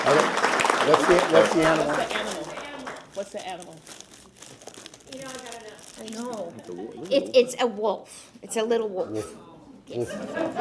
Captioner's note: applause